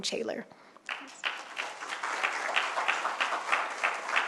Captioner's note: applause